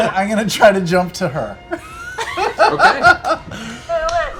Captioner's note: laughter